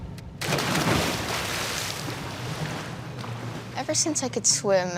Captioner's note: water splashing